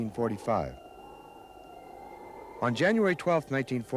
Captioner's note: wind whistles